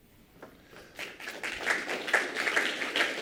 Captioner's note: applause